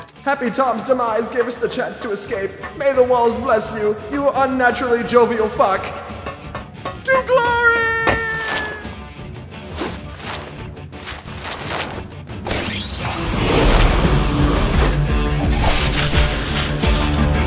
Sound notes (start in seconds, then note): 8.7 3DMG noises; 13.3 whoosh